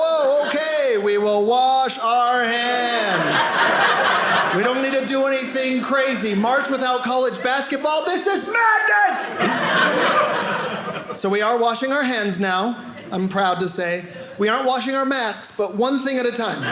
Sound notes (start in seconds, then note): 2.8 audience laughing; 9.2 audience laughing